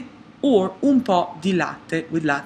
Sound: speaks in a foreign language

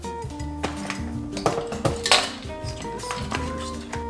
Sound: water rippling; clinking

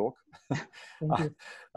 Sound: laughing

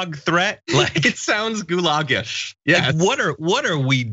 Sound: laugh

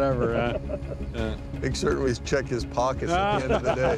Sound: laughing

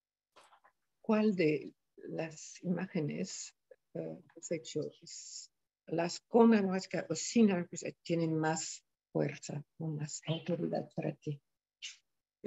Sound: speaking in spanish

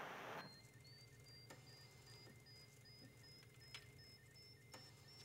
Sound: monitors beeping rapidly

